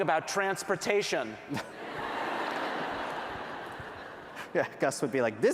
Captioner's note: laughter